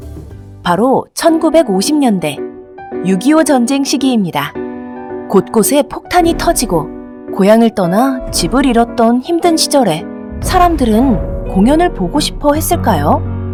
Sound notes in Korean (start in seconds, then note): 6.1 폭탄 발사되는 효과음; 10.3 폭탄 터지는 효과음